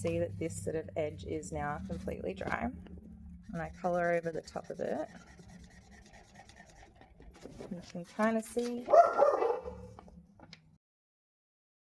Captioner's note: red woof woofs